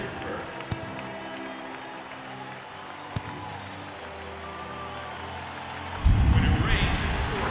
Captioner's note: applause